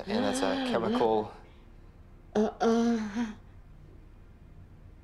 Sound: sighing

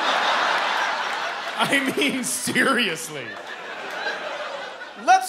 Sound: laughter; chuckling

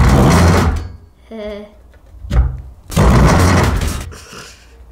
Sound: laughter

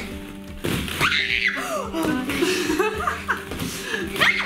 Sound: shrieking

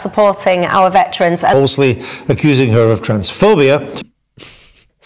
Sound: loud mic

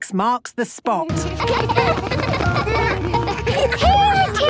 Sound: laughter

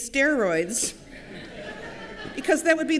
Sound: laughter

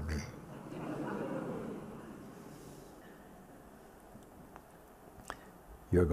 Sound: sangha laugh

